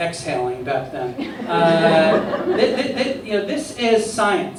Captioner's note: laughter